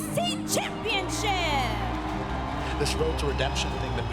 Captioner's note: crowd cheering